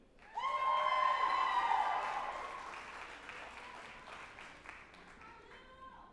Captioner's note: group applauding and cheering